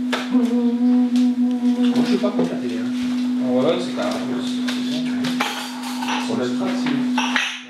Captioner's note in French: parle en norvégien